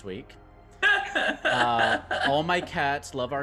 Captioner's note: laughs